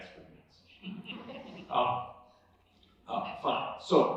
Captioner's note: laughter